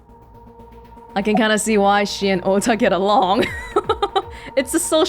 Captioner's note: chuckles